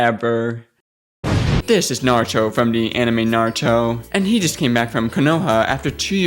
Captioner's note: explosion